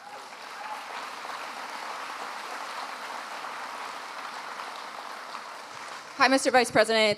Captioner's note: applause